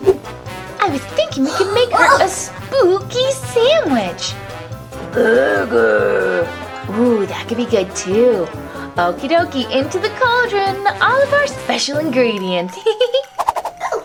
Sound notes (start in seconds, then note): 5.3 monster growls; 13.6 laughs